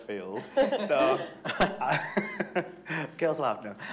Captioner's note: all laughing